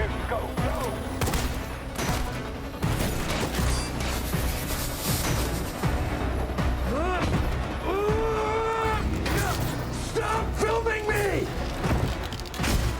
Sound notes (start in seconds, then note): 1.0 gunshots; 6.7 grunting